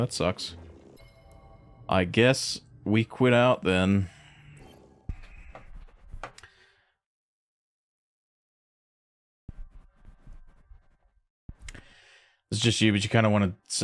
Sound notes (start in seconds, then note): 4.4 silence